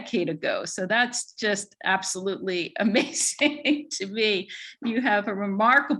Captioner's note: laughs